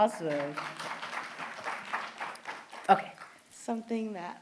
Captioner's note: applause